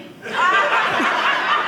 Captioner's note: audience laughing